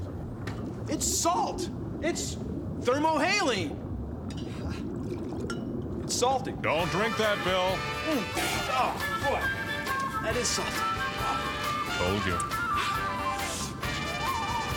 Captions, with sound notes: IT'S SALT! IT'S THERMOHALINE! [ CHUCKLES ] IT'S SALTY. DON'T DRINK THAT, BILL. OHH, BOY, THAT IS SALTY! WHOA. TOLD YA. AAH.